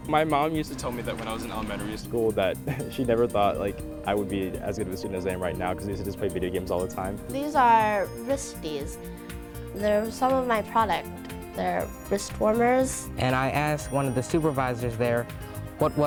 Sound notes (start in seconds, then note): 2.7 laughs